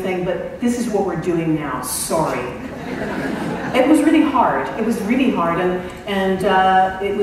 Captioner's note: laughter